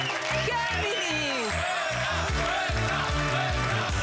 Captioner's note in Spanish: Aplausos